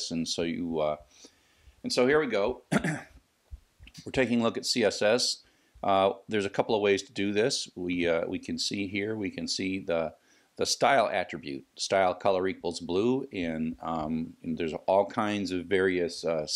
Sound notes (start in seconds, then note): 2.6 cough